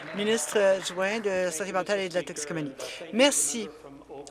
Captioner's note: applause